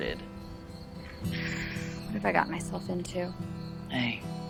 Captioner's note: sighs